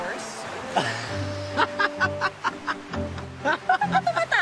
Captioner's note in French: chuckles